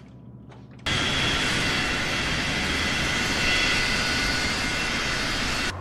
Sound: jet engine whirring

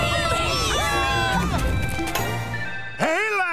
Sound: cheering; chiming

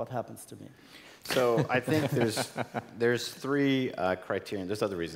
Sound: laugh

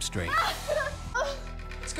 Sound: woman moans

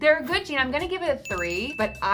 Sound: bell ringing

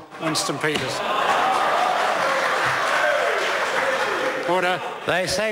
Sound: members applaud

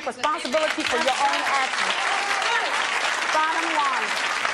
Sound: audience applauding

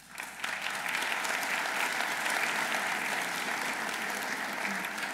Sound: audience applauding

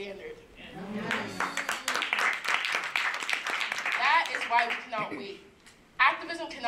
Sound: applause

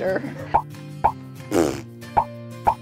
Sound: bronx cheer

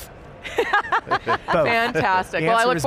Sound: laughing

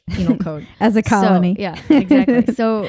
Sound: laughing

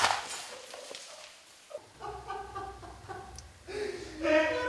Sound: laughing

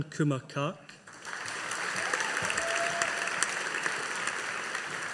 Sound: audience applauding

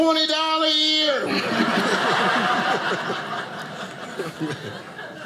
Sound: audience laughing

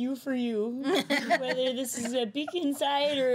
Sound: girls laughing

